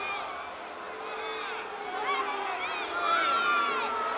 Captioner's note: crowd booing